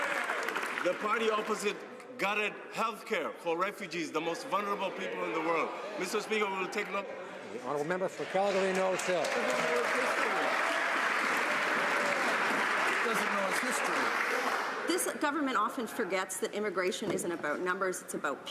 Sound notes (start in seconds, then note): 1.5 some Applause; 12.5 some Applause